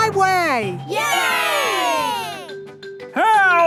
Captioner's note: crowd cheering